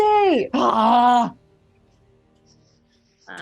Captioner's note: Quincy screams